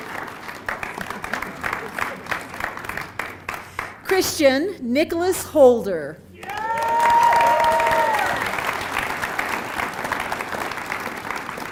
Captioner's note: applause